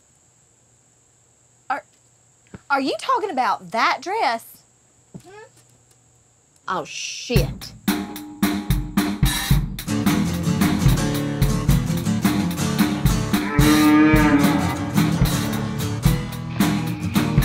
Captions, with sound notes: - Are, are you talking about that dress? - Hm? Oh shit. (funky music) (cow mooing)